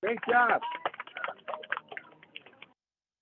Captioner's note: clapping